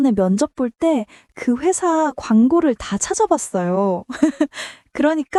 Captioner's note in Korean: 웃음